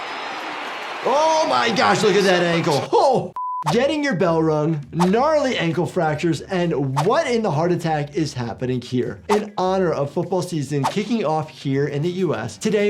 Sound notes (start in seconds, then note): 3.3 beep